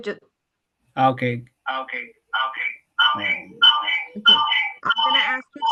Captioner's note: voice echoing